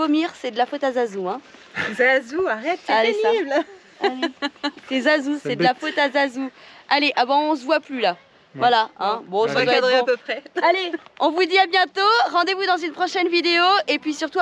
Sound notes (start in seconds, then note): 3.3 laughs